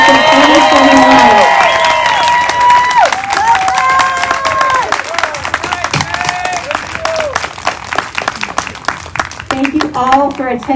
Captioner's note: applause